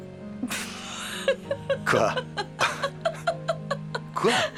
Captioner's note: laughing